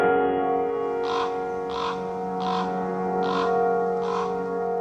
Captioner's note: raven calling in a forest